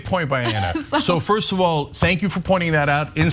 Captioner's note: laugh